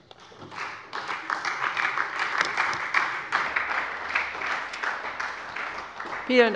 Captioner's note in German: Beifall bei Abgeordneten der SPD und der LINKEN